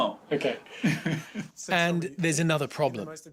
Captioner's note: laughing